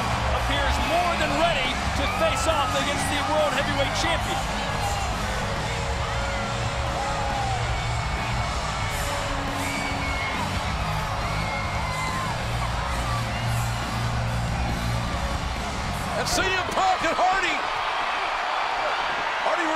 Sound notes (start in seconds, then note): 5.0 crowd shouts and cheers